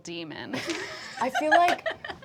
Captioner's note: laughter